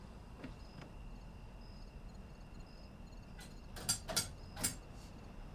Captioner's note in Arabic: طقطقة مفاتيح الآلة الكاتبة